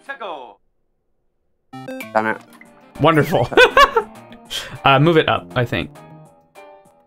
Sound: laughs

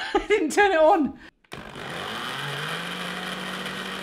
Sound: blender buzzing

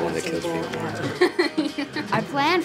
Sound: laughter

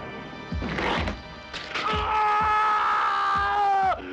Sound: howling with pain

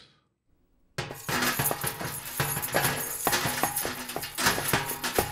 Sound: jangling sounds

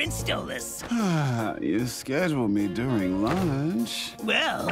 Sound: sighs

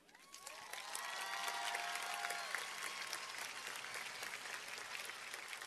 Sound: cheers and applause

